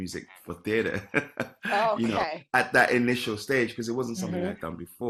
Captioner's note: laughs